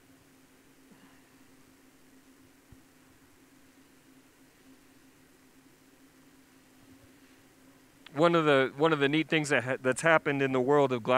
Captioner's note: pause